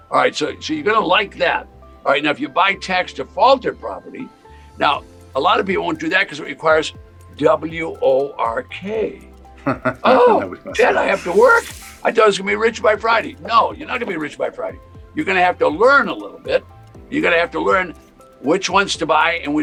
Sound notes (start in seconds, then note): 9.6 chuckles